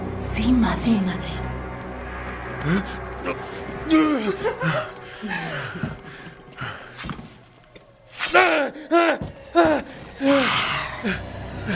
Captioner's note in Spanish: risas